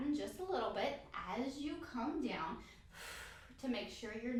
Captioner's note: exhale